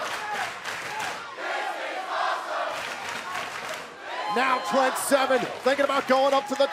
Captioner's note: fans chanting